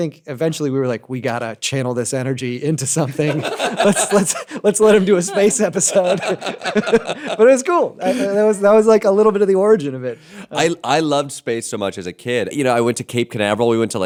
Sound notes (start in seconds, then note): 5.6 laughter